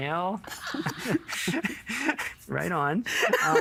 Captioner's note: chuckling